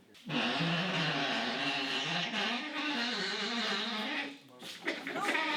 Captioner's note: wheels groaning